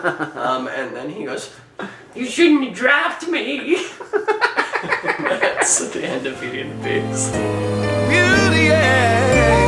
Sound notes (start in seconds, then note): 3.8 laughing; 4.2 cackling